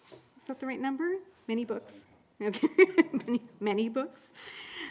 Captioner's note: laughing